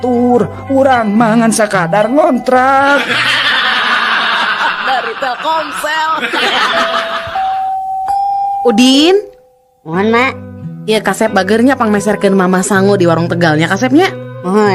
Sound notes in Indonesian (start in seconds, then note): 7.0 tertawa